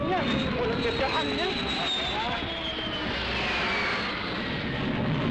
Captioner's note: speaking foreign language